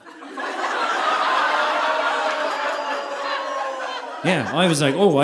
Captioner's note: audience laughing